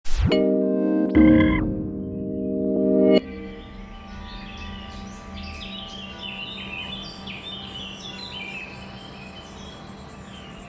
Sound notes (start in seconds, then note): 0.9 soft music; 6.6 birds chirping